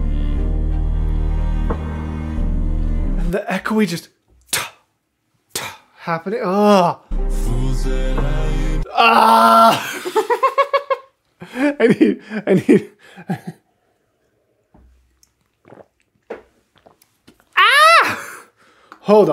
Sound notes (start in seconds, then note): 5.7 laughter